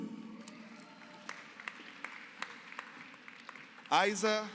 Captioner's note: applause